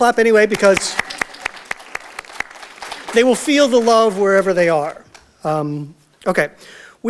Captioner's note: audience Applause